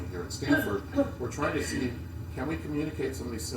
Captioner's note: cough